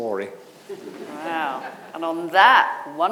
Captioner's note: audience laughing